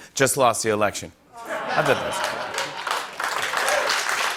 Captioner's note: laughter and applause